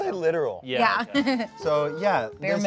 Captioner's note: laughs